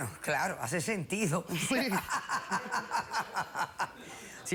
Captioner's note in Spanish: risas